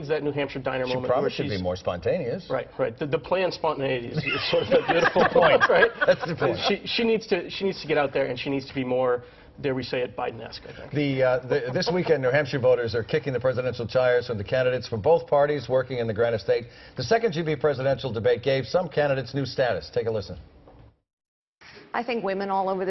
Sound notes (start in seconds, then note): 9.7 laughter